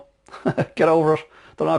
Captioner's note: laughs